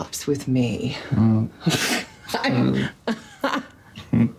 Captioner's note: both laughing